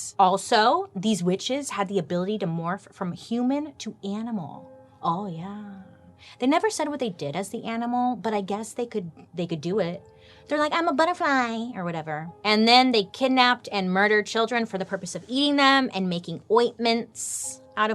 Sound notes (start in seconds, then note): none